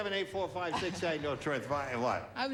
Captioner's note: mumbling